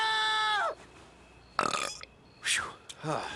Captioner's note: <i>yelling</i>; <i>burps</i>; <i>sighs</i>